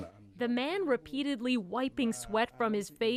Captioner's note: speaking Foreign Language